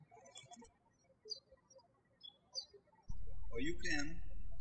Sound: birds chirping

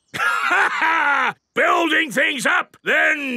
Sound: laughs

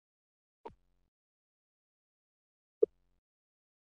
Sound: silence

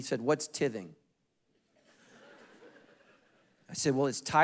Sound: congregation laughing

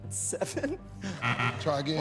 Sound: buzzer

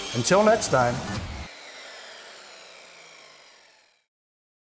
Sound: saw whirring

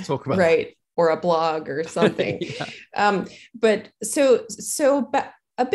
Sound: chuckling

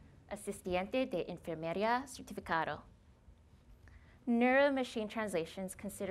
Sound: speaking spanish

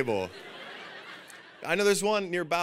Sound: audience laughing

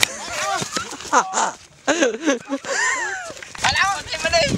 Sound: video grapher laugh

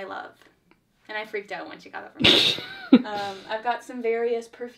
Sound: laughs

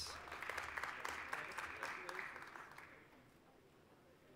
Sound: applause

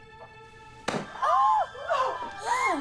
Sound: pillow pops; girls laughing; lighthearted music

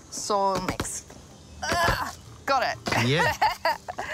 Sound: laughs

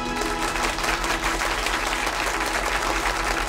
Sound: class clapping

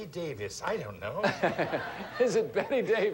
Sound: audience laughing

